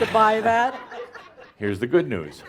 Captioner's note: some laughter